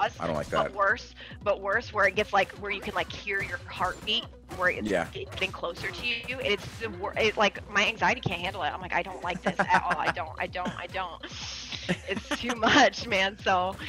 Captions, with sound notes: >> I don't like that. >> But worse, where it gets where you can hear your heartbeat, where it's being closer to you. My anxiety can't handle it. I'm like, I don't like this. >> [LAUGH] >> At all, I don't, I don't, I don't. It's too much, man.